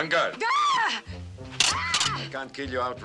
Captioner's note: screams